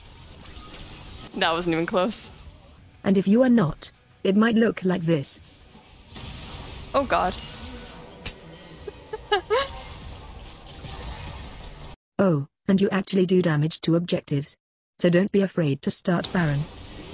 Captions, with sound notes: That wasn't even close. And if you are not, it might look like this. Oh God. *high-pitched laughter* Oh, and you actually do damage to objectives. So don't be afraid to start baron.